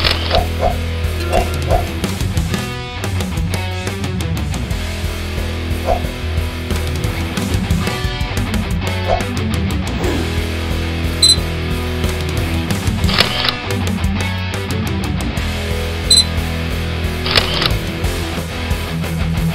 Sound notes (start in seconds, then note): 0.0 sound--Camera snap shot; 1.2 sound: email alert; 11.2 sound--Beep; 11.5 sound -- Camera snap shot; 16.1 sound--Beep; 17.2 sound -- Camera snap shot